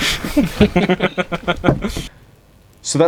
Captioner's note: the band laugh together